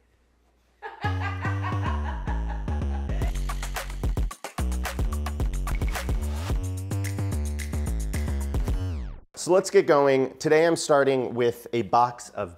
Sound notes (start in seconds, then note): 0.8 crew member laughing; 1.0 upbeat music